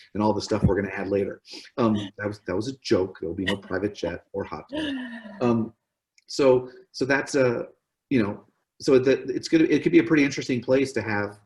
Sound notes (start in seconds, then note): 3.3 laughs